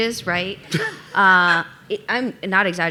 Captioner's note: laughing